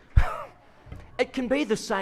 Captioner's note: audience laughs